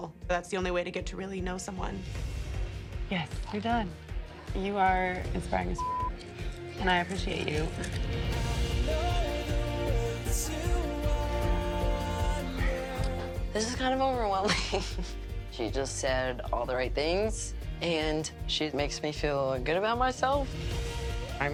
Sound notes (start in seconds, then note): 14.4 laughs